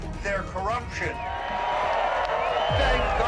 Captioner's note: crowd cheering